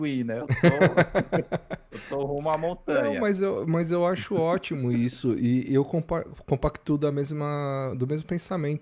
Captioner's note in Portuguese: risadas